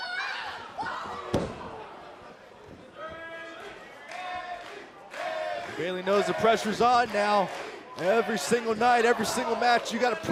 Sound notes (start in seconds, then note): 1.3 crowd cheering